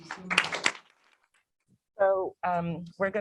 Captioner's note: applause